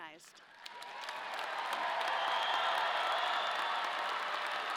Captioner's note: audience applauding